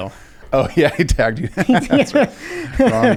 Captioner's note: laughs